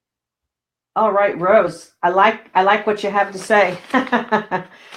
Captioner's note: laughing